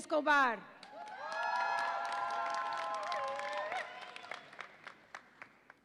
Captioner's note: audience applauds and cheers